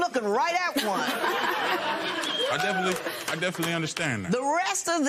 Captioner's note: laughter